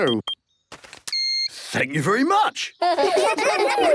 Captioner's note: beeps; children giggling